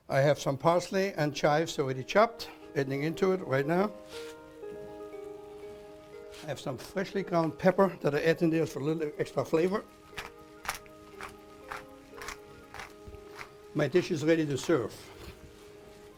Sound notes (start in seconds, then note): 12.7 grinding; 15.9 pots rattling